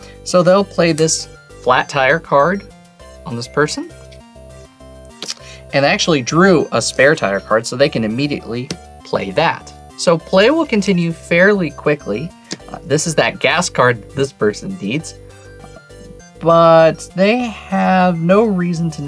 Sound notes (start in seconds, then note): 5.1 card slaps; 12.4 card slaps